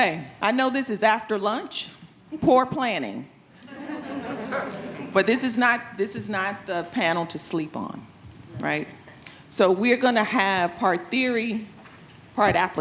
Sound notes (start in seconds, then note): 3.6 attendees laughing